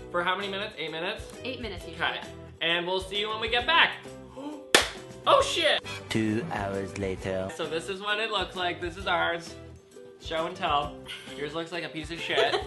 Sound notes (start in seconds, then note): 4.7 claps